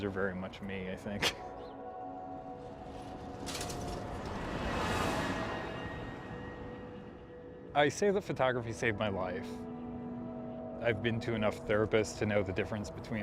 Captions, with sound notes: those are very much me I think. (cars whirring) I say that photography saved my life. I've been to enough therapists to know the difference